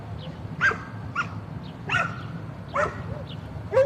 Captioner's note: dog barking